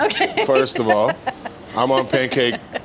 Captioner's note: laughs